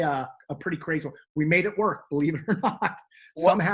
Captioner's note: laughs